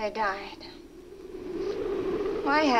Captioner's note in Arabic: عواء الرياح المكتوم